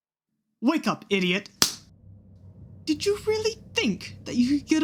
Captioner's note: slap